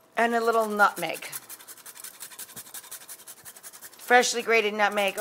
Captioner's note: nutmeg scraping on grater